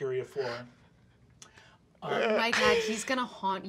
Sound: sobbing

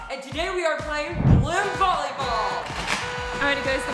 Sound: party horn

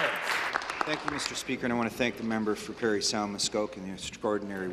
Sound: applause

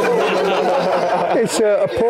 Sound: crowd laughs

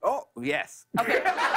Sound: laughter

